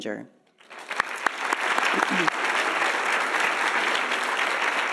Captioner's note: audience applauding